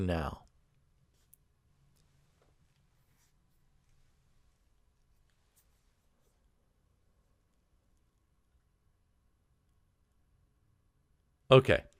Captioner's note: pause